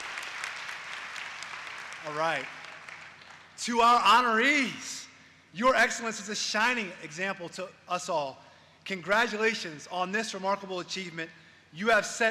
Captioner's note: applause